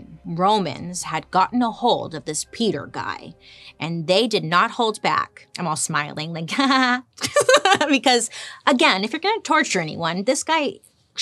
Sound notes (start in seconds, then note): 6.6 laughs